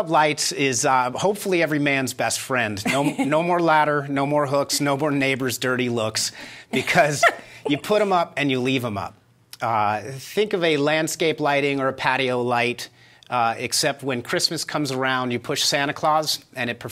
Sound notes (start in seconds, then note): 2.8 chuckling; 6.7 laughing